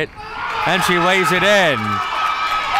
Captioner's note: crowd cheering